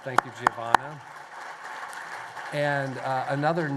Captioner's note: applause